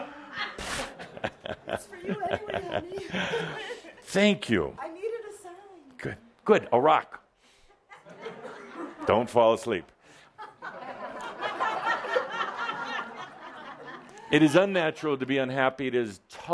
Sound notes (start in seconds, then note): 7.0 laughter as he ‘threatens’ to throw the rock at someone